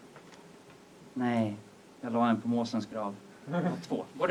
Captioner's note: audience laughs